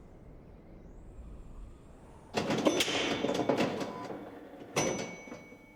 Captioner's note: loud close pinball sounds